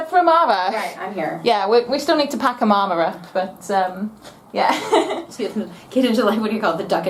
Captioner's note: laughter